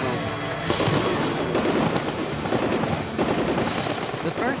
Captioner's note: guns fire; voiceover